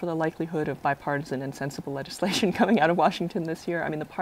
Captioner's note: laughter